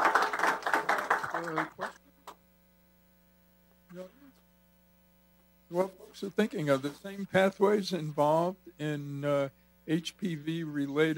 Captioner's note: applause